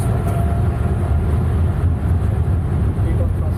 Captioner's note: plane engines whining